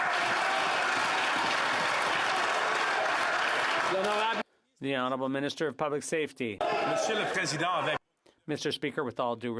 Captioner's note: yelling